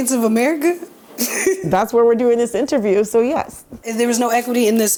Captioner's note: laughs